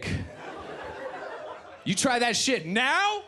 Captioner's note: audience laughs